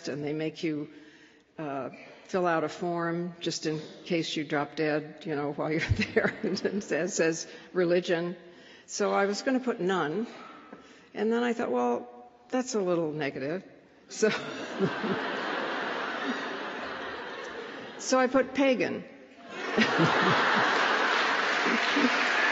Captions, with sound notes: and they make you fill out a form just in case you drop dead while you're there. And it says, Religion? So I was going to put none. And then I thought, well, that's a little negative. [LAUGHTER] So I put Pagan. [LAUGHTER]